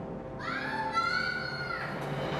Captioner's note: voiceover